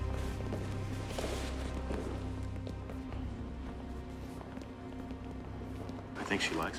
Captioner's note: ominous music; footsteps tapping